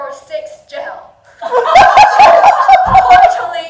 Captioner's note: audience laughing